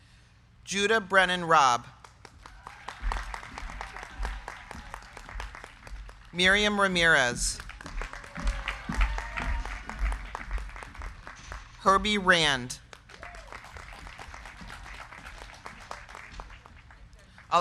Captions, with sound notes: Judah Brennan Raab. (crowd clapping) Miryam Ramirez. (crowd cheering) (crowd clapping) Herbert Rand. (crowd cheering) (crowd clapping)